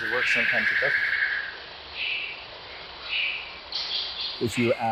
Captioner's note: birds chirping